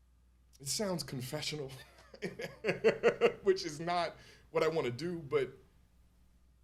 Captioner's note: laughs